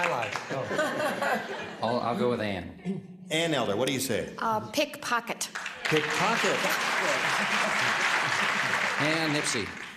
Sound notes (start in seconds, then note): 5.5 applause